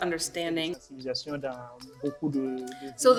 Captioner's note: speaking in French